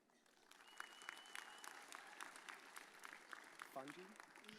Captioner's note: audience cheers